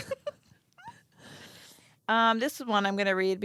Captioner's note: girls laughing